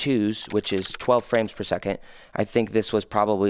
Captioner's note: computer keys clicking